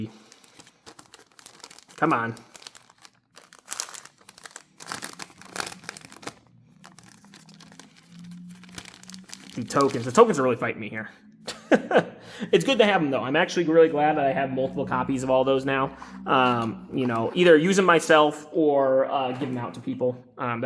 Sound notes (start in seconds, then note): 11.4 laughs